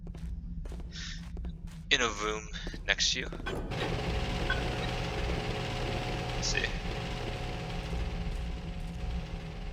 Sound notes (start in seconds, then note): 3.4 loud machine whirring